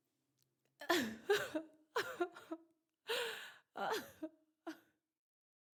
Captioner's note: cries